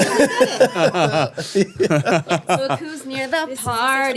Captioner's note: laughing